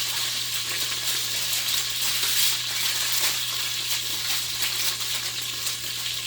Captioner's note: oil sizzling and foil crinkling